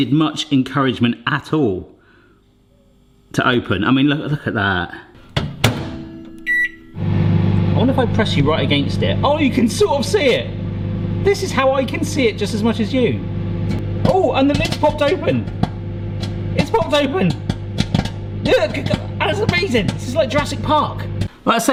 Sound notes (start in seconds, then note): 6.4 beep; 7.3 microwave humming; 10.5 microwave humming; 15.6 microwave humming; 15.6 popping; 18.2 popping